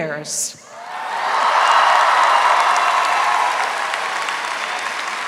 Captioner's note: audience applauding